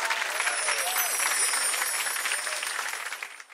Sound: logos twinkling

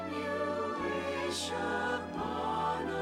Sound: none

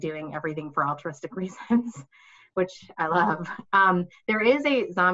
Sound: chuckling

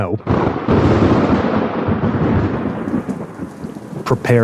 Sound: thunder crashes

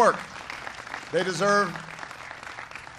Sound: applause

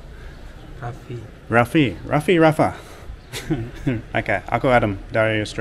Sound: laughing

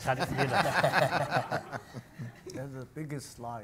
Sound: audience and panel laugh

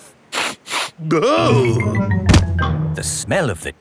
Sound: sniffs and groans

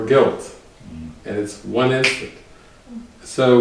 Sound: one finger snap

